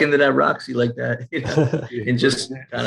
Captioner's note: laughing